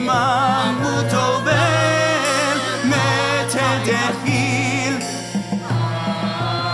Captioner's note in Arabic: بالعربية